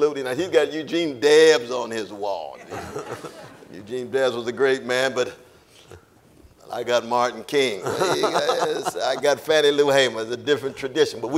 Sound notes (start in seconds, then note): 2.6 audience laughing; 7.7 laughs